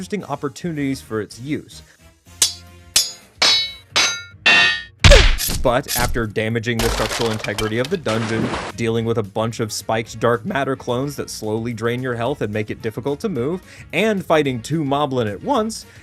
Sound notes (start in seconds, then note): 3.4 clanging; 5.0 loud crash